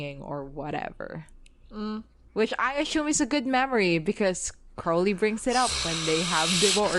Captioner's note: hissing